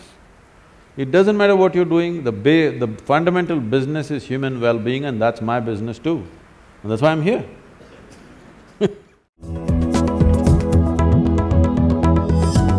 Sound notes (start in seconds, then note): 8.7 laughter